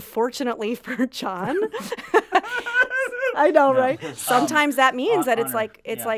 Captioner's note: fakes crying